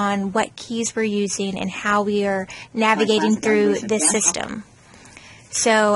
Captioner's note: in background, JAWS screenreader begins talking